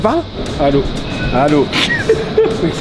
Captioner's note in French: rire